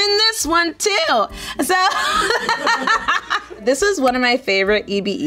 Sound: laughing

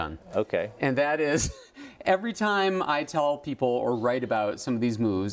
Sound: laugh

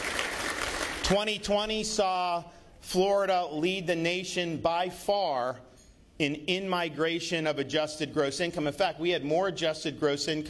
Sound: applause

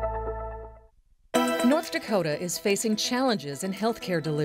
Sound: voiceover

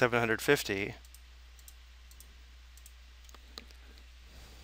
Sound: mouse clicking

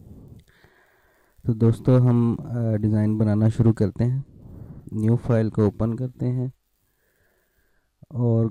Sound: urdu/hindi

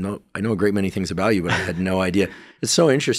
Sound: chuckling

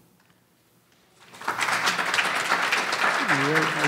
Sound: audience applauding

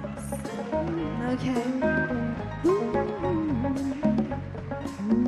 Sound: audience clap

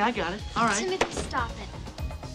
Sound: exasperated

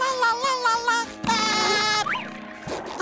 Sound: laughing

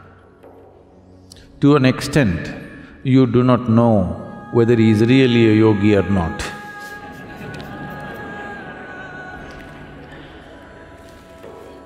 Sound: laughter

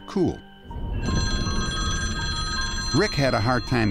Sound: phone ringing

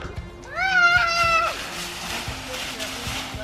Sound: yelling

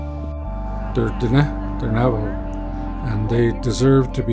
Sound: navajo language

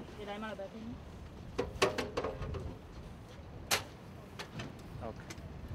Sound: medics speak foreign language

